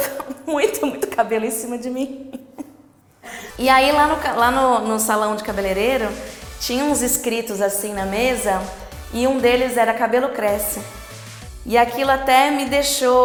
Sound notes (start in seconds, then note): 2.2 laughs